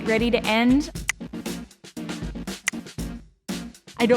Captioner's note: click